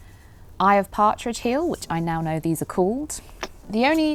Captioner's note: clicks tongue